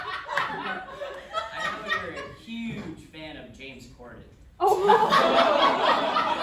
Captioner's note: audience groans